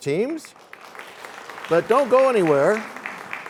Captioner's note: applause